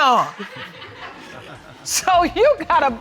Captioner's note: audience laughing